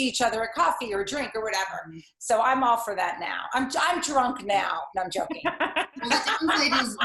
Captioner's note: laughter